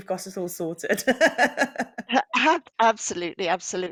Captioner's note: laughs